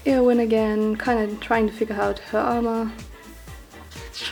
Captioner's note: none